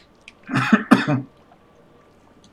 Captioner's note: coughs